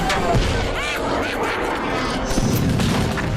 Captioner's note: Granny May laughing